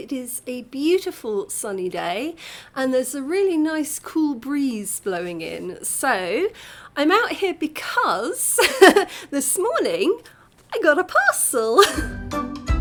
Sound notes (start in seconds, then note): 11.8 laughing